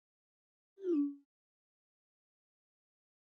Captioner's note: text message swoop sound